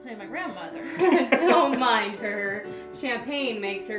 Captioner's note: Isabel and Billy laughing